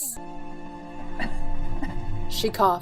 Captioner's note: cough cough